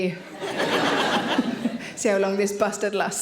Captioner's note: audience laughing